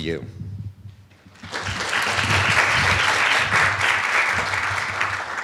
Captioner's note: applause